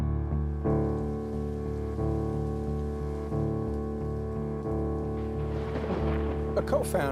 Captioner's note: thunder rumbles